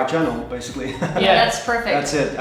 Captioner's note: laughing